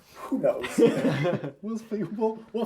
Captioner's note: all laugh